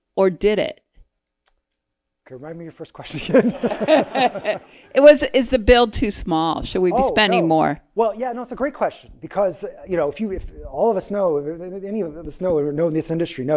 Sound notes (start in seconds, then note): 3.2 audience laughing; 3.2 laughs